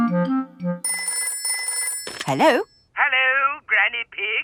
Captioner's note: telephone ringing